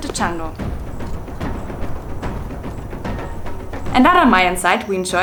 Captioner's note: howler monkey